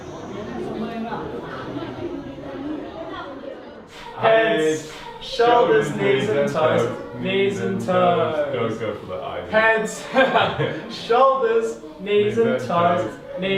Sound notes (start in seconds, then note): 0.1 insects chirping; 4.3 in Unison; 9.8 in Unison; 9.8 laughs